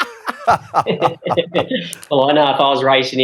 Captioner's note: laughs